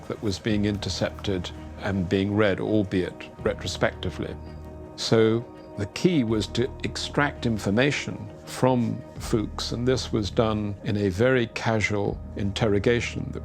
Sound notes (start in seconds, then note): none